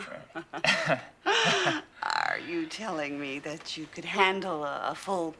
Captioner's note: chuckles; exclaims